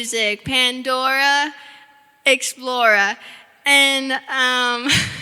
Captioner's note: giggling